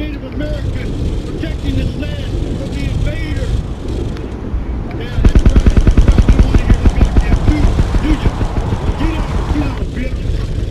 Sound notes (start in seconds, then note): 5.2 repetitive thudding sounds, like a chopper or covered machine gun